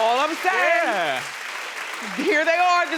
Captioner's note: applause